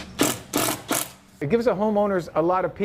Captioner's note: drilling